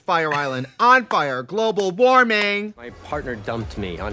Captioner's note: Katya slaps knee